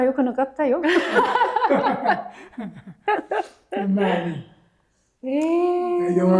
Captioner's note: laughing